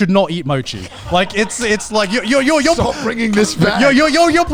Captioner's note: laughing